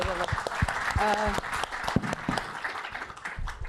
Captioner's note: applause